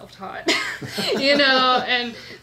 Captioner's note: laughs